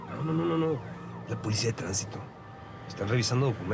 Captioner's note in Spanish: sonido de sirenas